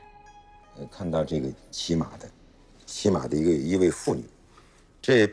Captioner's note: speaking in foreign language